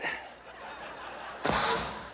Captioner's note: audience laughing